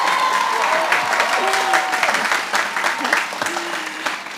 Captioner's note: applause